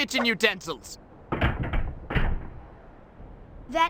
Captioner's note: machine makes noise